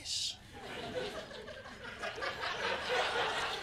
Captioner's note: laughter